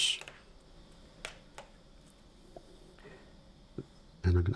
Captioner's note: silence